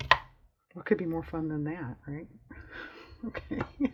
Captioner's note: laughs